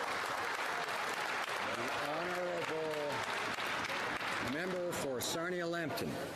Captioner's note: some Applause